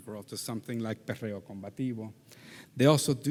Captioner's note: faintly speaking